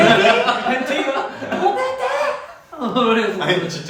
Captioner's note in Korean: 고래고래